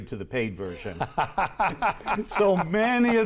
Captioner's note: laughs